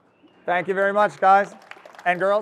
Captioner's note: audience applauds